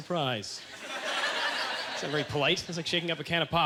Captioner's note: audience laughter